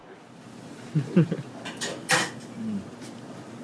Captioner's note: laughs